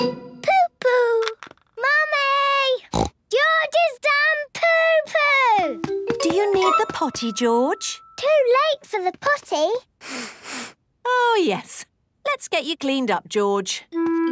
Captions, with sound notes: - Poo-poo. - Mummy! (snorts) George has done poo-poo! - Do you need the potty, George? - Too late for the potty! (sniffs) - Oh, yes. Let's get you cleaned up, George.